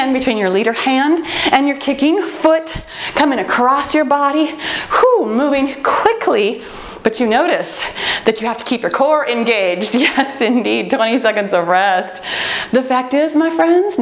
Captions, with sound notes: between your leader hand and your kicking foot, coming across your body. Whoo, moving quickly. But you notice (timer beeping) that you have to keep your core engaged. Yes (laughs) indeed. 20 seconds of rest. The fact is my friends.